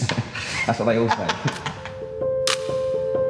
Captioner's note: laughter